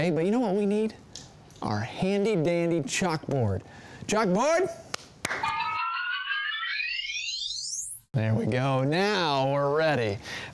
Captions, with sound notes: But you know, what we need? Our handy dandy chalkboard. Chalkboard! (claps) (whimsical sound) There we go. Now we're ready.